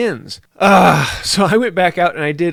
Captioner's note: argh